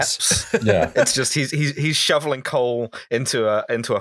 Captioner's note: laughter